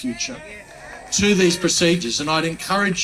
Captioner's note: crowd agreeing